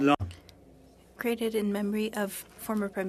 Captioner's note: speaking in French